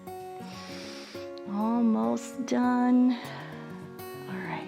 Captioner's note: inhales